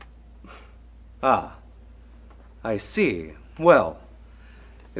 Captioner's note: Lana chuckles